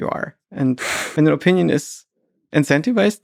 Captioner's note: Lex chuckles